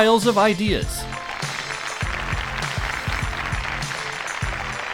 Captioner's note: crowd applauding